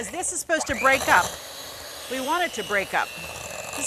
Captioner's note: blender machine roaring